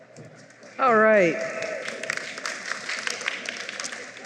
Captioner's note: applause